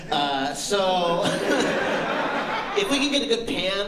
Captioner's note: laughter